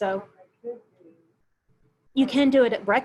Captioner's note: murmurs